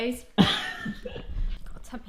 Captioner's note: laughs